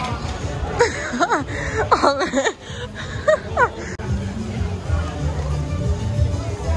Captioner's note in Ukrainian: сміх